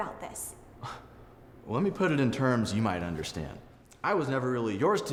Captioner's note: scoffs